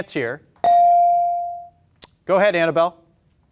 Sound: beep

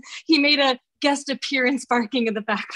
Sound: none

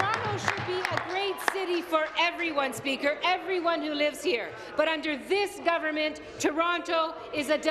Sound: applause

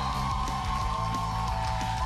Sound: cheers and applause

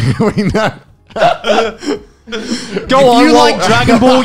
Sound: men laughing; laughs

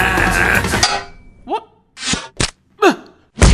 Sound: dink

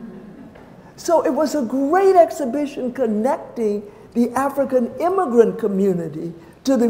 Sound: laughter

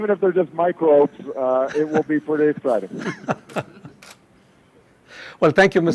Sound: laughter; laughter

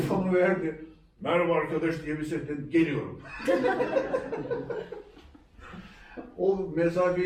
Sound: laughter

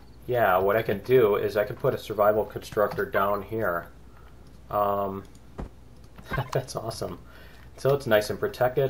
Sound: laughs

